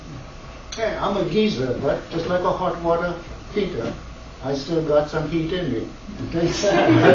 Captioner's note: laughter